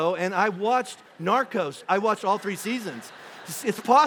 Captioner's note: congregation laughing